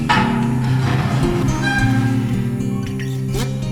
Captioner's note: trunk creaks